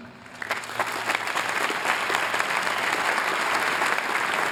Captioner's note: applause